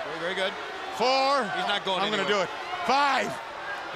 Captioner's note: crowd cheering